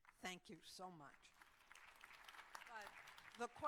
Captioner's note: applause